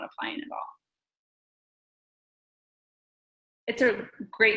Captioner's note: silence